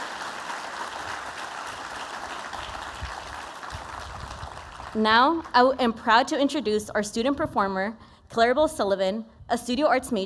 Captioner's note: aplausos